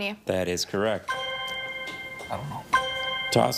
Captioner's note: chime resonating